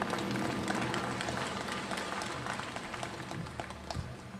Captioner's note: applause